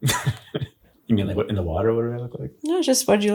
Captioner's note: laughs